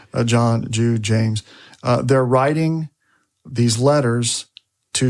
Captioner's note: none